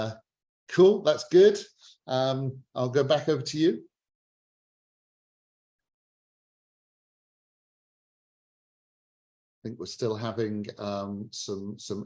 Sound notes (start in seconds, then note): 8.6 muted